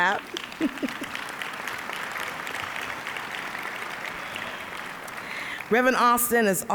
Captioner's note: applause